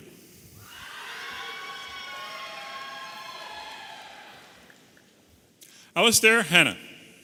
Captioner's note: audience applauding and cheering